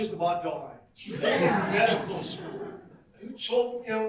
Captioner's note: audience laugh